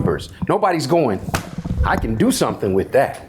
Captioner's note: hand slaps